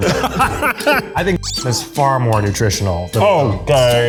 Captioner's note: laughing; squeak